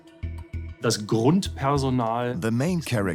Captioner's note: in German; dubbed in English